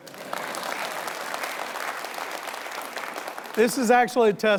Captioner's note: audience applauding